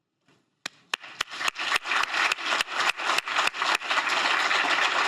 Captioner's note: applause